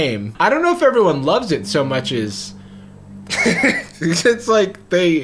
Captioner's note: laughs